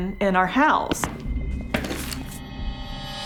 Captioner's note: footsteps